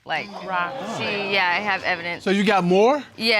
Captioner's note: audience exclaims